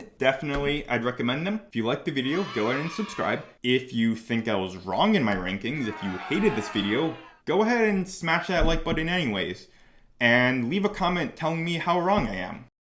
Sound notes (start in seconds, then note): 2.2 children cheering; 5.7 people booing